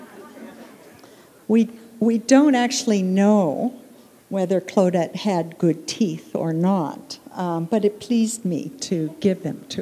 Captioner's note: laughter